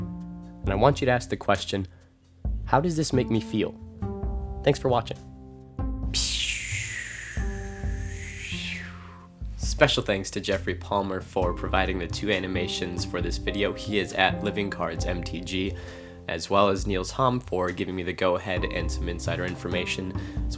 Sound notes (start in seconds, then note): 6.1 whoosh sound